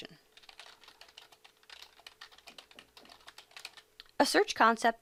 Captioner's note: typing